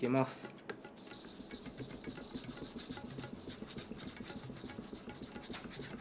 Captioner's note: sound of sharpening